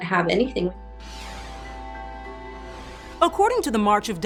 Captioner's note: somber music; screen whooshing